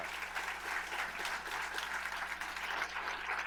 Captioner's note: applause